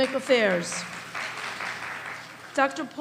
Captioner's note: small applause